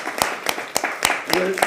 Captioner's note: applause